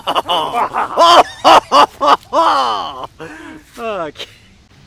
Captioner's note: maniacal Laughter; insane Laughter